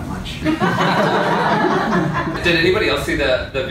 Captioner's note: laughter